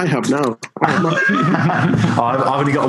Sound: laughing

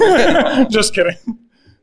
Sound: all laughing

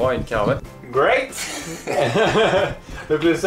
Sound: laughes

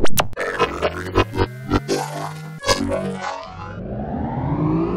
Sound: electronic buzzing

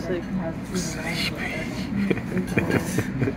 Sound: laughing

